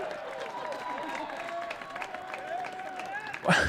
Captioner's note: applause